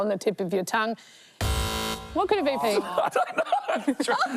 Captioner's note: buzz!